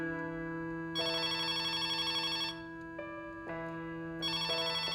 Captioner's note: phone rings